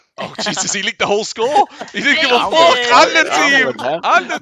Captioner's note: laughs